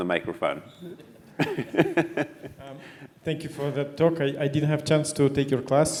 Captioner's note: laugh